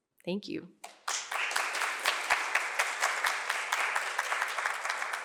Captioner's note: applause